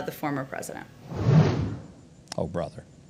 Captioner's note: whooshing